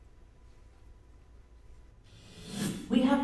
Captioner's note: newscast plays from cellphone